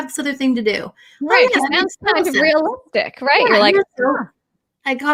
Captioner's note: chattering